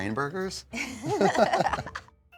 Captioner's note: laughing